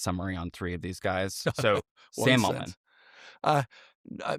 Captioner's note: chuckles